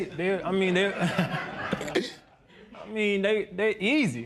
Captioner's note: laughter